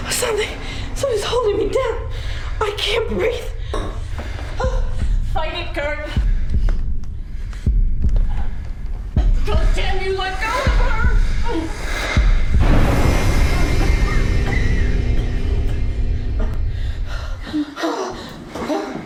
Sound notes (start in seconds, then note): 4.4 heart pounding; 11.2 Evan whooshes; 13.9 Gert gasping